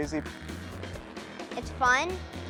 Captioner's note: engine revving fast